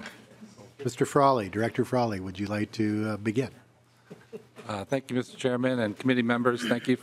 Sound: laughing

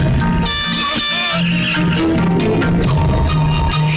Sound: honking; tires squealing

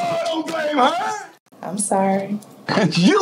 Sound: laughs

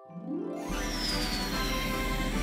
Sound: air blows

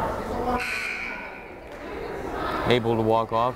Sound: buzzer blares

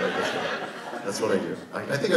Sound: audience laughs

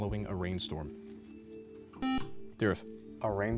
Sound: buzzer

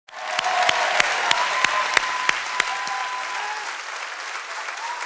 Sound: congregation cheers and applauds

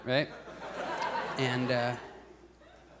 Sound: audience laughs

